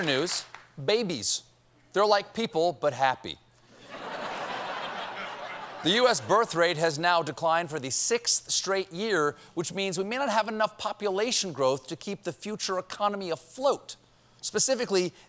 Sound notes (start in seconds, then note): 3.7 laughter